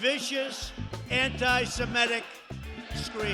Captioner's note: crowd chanting